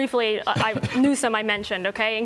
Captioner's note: laughter